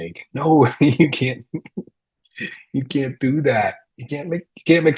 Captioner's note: chuckles